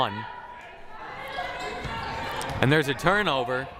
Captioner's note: crowd cheering